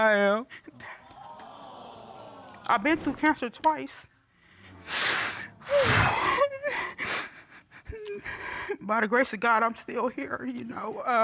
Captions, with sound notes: [audience exclaiming] I've been through cancer twice. [exhales, stifling sobs] By the grace of God I'm still here, you know. Amen.